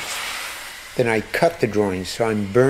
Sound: torch being lit

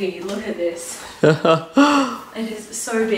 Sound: chuckles

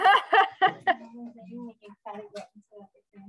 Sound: laughter

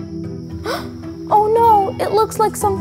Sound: gasping

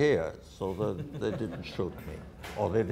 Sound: audience laughter

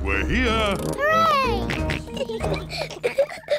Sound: george oinks; kids giggling

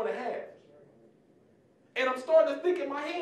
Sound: general murmuring

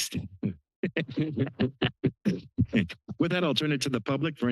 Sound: laughter

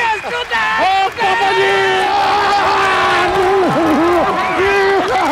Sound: shouting

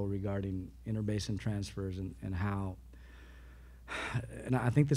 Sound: sighs

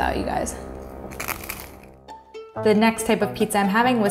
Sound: bread crunching

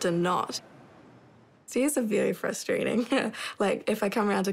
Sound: chuckles

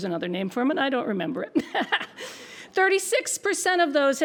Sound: laughs

